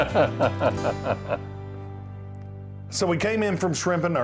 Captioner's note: laughing